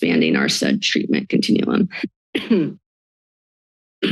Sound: coughs

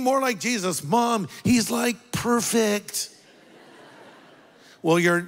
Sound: congregation laughs

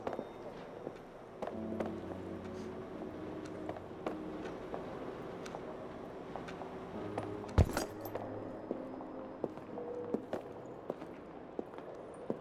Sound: metal clanking

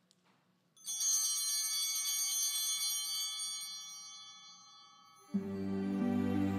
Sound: bell ringing

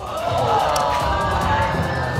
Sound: audience exclaiming

